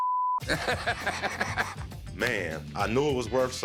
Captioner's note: laughs